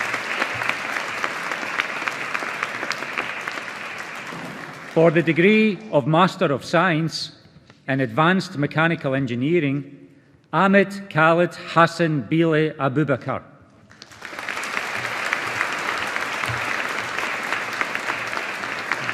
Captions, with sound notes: For the degree of Master of Science in Advanced Mechanical Engineering, Ahmed Khalid Hassan Bile Abubakar. (AUDIENCE APPLAUDING)